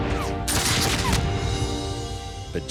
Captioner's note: rifles firing